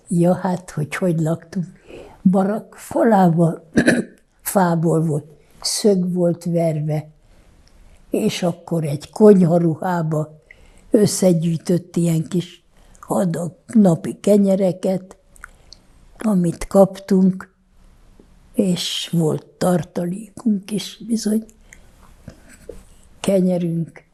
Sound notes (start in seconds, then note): 3.7 clears throat